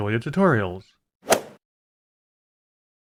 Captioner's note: swoosh